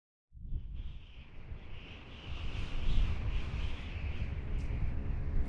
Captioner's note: wind whistling